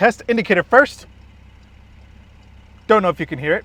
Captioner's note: car engine purring; indicator clicking